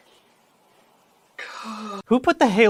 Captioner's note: deeply anxious sigh